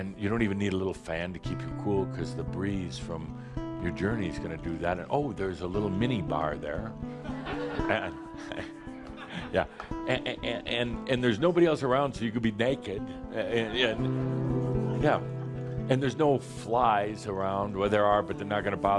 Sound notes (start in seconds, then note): 7.2 laughter